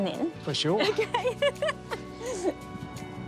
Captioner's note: laughs